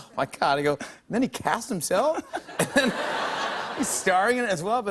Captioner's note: laughter